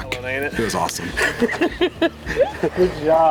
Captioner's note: laughing